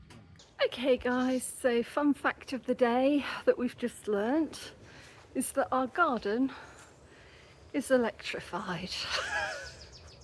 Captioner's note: laughing